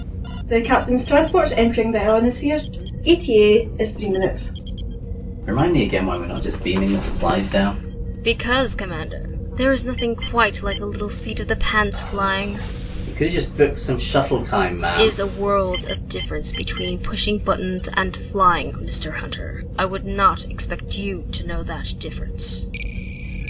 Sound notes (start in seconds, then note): 0.0 alarm